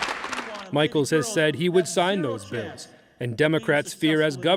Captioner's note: applause